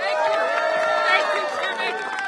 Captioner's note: applause